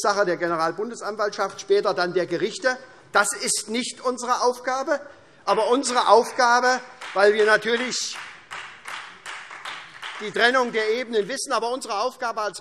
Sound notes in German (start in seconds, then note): 5.0 Vereinzelter Beifall SPD und Freie Demokraten